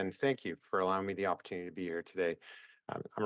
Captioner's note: speaking French